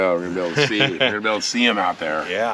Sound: chuckling

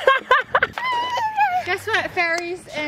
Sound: laughs aloud

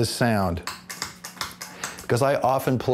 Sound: mechanical clicking

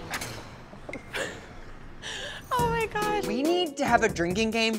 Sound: chuckles

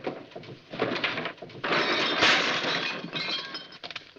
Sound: clattering

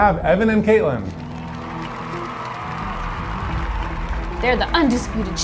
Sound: dramatic music; audience cheering

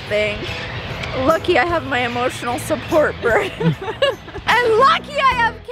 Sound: laughs

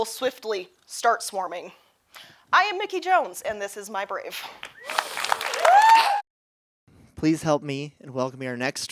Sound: applause

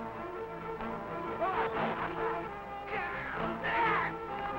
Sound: men grunting

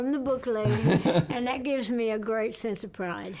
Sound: laughter

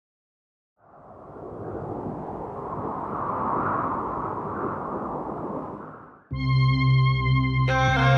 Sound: wind Blowing

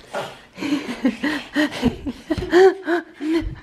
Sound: laughter

